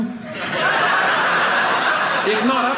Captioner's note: audience laughing